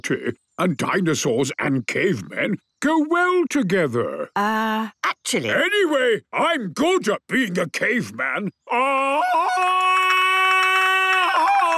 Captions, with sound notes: and dinosaurs and cavemen go well together. - Er, actually... - Anyway, I'm good at being a caveman. (Tarzan call)